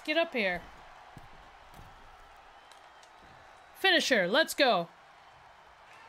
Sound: applause

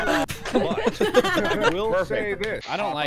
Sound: laughter

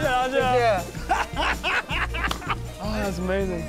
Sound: laughs

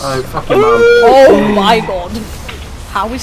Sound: gasps

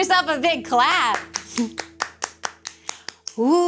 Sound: hands clapping

